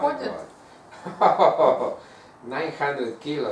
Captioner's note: hahaha